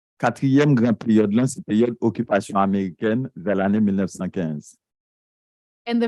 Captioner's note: speaking a foreign language